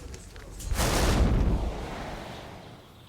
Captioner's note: thunder; birds chirping